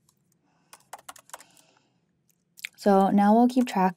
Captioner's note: keyboard clanking